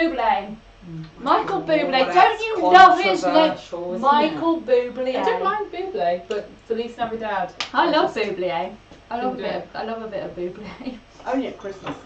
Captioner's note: laughs